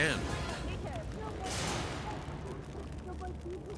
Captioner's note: people speaking in a foreign language